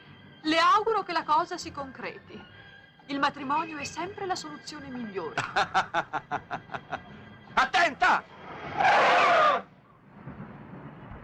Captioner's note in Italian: risate